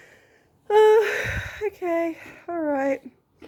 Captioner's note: sigh